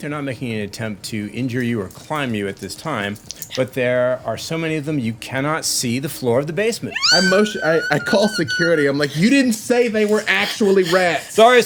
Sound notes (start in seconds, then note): 6.9 squeals